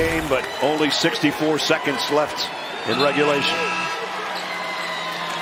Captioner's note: buzzer